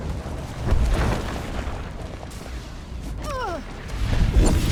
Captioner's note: explosion; explosion